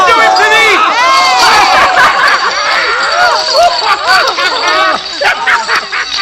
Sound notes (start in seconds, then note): 1.5 laughter